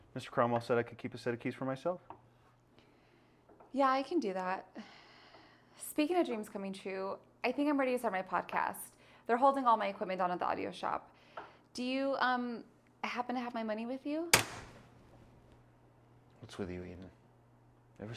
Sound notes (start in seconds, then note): 14.2 knife taps counter